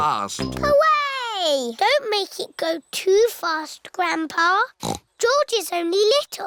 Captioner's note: snorts